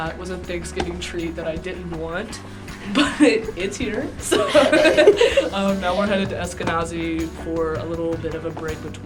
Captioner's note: laughs